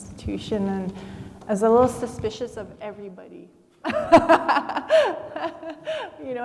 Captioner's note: laughs